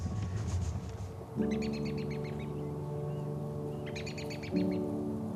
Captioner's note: birds chirping; soft music